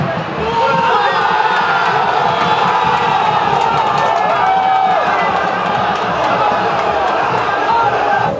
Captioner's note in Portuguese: gritos de gol